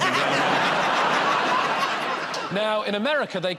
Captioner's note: laughter